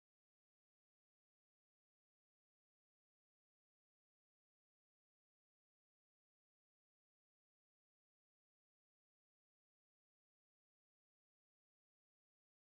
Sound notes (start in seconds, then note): none